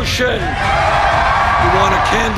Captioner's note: huge applause